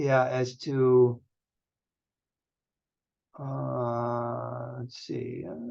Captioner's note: silence